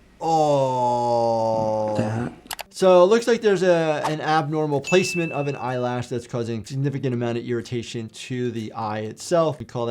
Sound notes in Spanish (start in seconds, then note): 2.5 clic